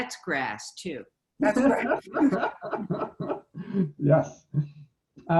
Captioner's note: everyone laughing